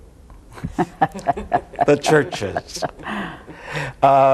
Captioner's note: panel laughs